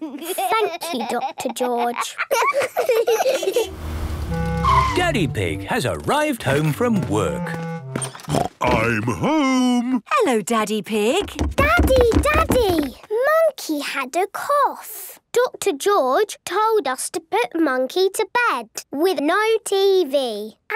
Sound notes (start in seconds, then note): 2.9 laughs; 7.9 snort